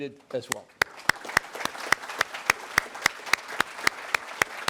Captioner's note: audience applauds